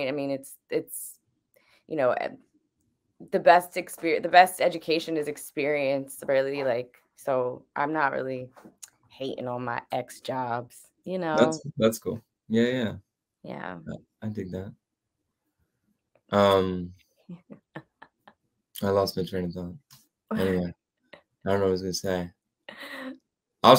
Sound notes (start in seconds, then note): 16.4 giggling